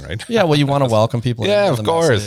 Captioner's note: laughs